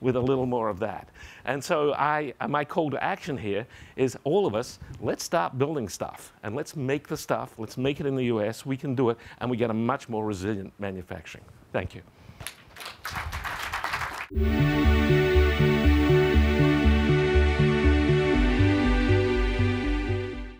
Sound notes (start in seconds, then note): 12.4 applause